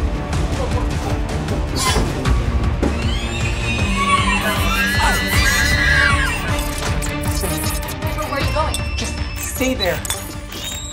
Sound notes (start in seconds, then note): 0.1 intense action music; 3.1 shrieker sounds